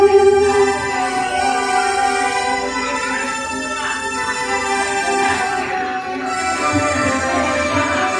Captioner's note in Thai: ปรบมือ